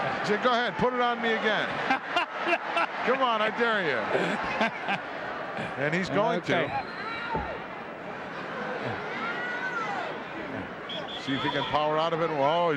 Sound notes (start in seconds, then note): 2.0 laughing